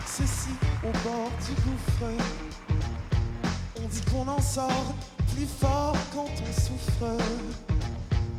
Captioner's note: applause